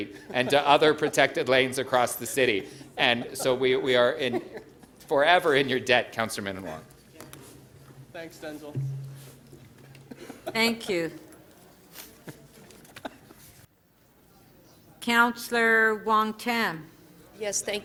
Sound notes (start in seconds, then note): 9.1 laughter